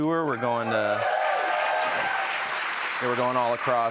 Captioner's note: cheers and applause